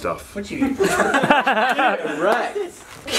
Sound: laughter

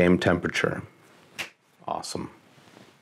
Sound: clap

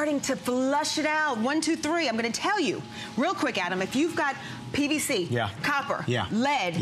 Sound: counting

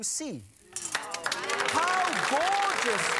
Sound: audience clapping

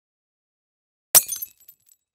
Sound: glasses shattering

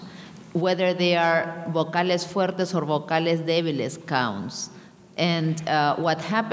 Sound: speaking in a foreign language

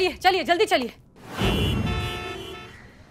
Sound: cars honking

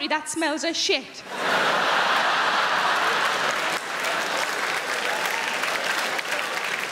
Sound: crowd laughing; crowd clapping

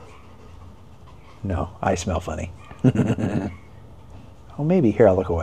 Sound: chuckles

